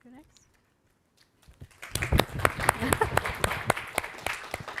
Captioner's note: all applauding